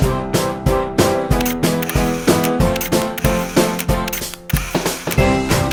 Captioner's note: camera shutter clicking